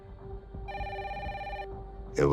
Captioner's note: phone rings